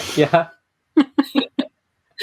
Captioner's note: laughs